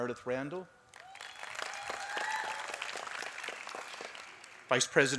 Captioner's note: applause